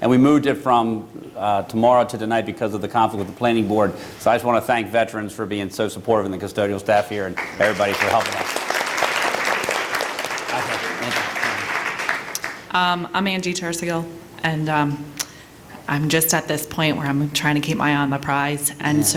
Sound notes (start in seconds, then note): 7.3 applause